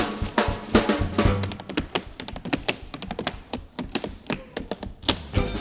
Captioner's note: drums banging; tapping; drums banging